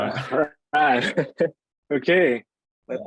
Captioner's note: laughs